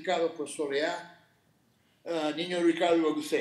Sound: speaking Spanish

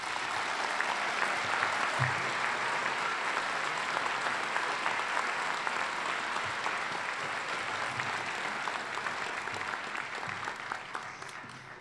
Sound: applause

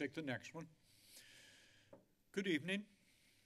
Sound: inhales

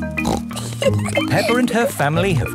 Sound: snorts and giggles

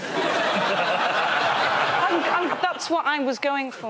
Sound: laughter

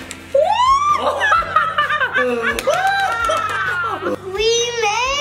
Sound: excited cackling

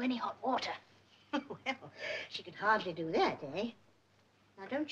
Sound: laughs

